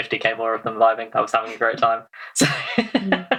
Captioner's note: laughs